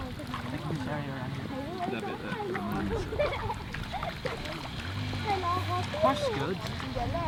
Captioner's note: people chatter; kids giggle